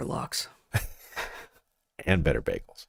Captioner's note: laughs